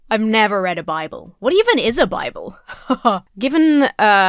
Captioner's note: laughs disingenuously